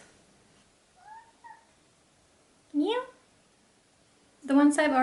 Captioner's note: meows